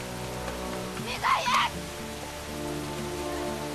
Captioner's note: shouts